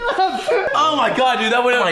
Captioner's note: laughter